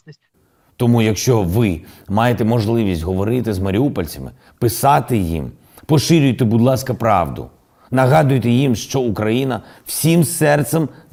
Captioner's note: in Ukrainian